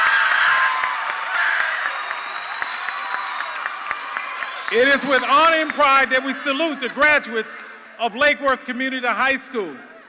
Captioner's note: cheers and applause